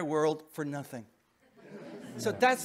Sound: audience laughing

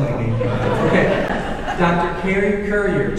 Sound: audience laughing

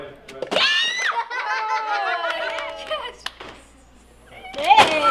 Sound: children laughing

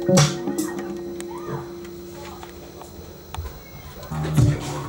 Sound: music stops; person yells in distance; sultry reggae music plays

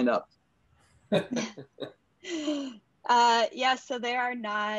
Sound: laugh

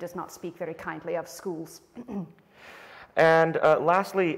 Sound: clears throat

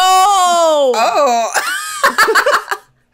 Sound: laughs

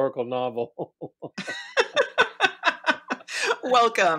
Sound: both laugh

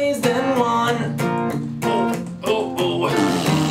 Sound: farts; grunts and squeeze

